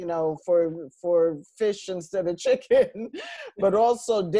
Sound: laughs

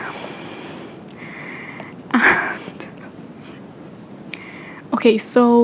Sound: laughing

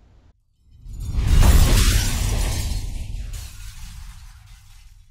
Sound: rumbling and glass crashing

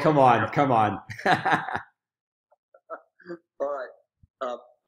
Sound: laughing

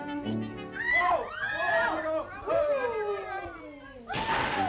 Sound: crowd Gasps

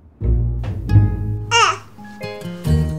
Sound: baby gurgles

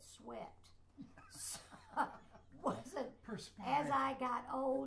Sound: laughs

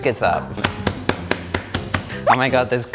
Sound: pounding

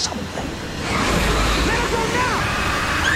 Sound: screaming

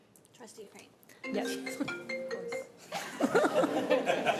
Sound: phone ringing; laughter

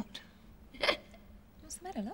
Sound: giggling

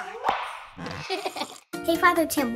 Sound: children laughing

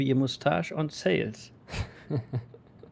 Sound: chuckles

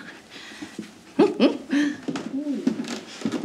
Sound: little giggle

